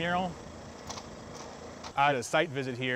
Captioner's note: ladder clacking